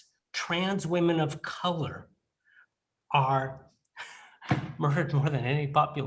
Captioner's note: laughter